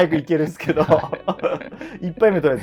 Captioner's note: laughing